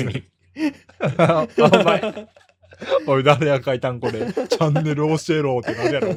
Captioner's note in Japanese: 笑い